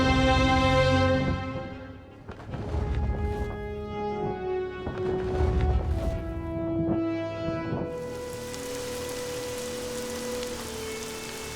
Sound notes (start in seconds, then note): 4.9 feathers flap; 7.9 rain pours